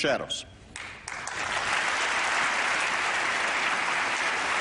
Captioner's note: applause